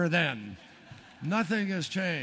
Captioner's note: laughter